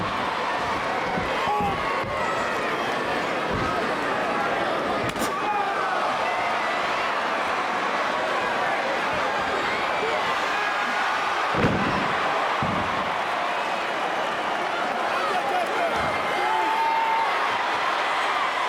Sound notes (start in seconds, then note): 7.1 crowd cheering; 11.5 wrestler thudding; 11.5 crowd chattering